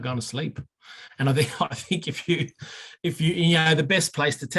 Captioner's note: chuckling